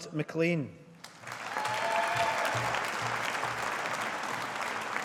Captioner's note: audience applauding